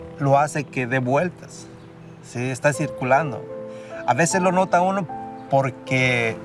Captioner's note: continues speaking in Spanish